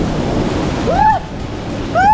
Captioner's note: screams